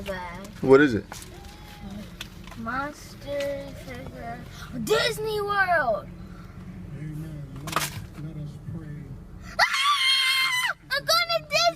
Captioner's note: scream